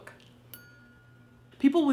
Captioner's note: bell rings